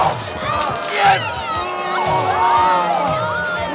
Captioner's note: audience boos